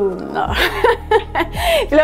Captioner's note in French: rire